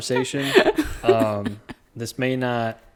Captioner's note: laughs